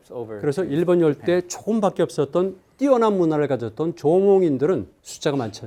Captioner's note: speaking in Korean